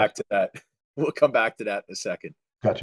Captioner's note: laughs